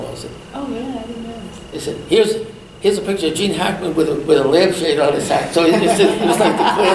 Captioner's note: all laugh